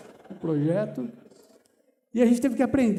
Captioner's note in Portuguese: risos